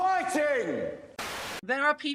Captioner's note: static